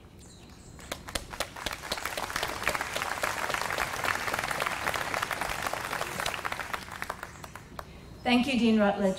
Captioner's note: applause